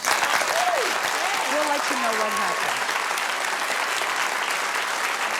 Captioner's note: audience applauds